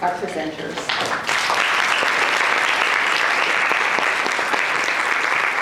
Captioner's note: audience applauds